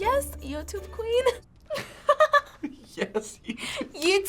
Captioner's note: laughing